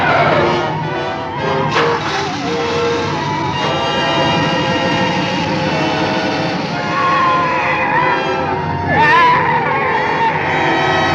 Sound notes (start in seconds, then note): 1.6 engine Starts